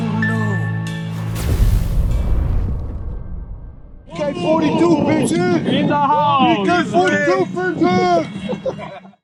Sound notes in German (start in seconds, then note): 1.1 BK42 Logo-Explosion